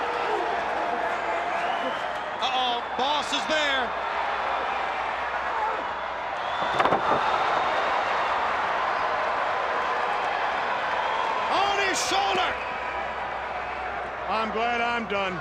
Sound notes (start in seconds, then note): 3.4 crowd cheering